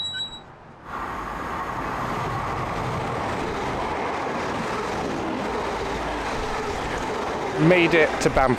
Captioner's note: squeaky Gate; passing train